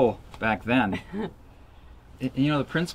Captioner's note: laughs